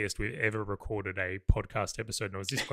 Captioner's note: laughs